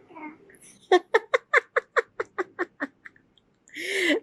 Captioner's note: laughing* off-camera